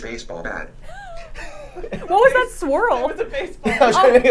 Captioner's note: laughs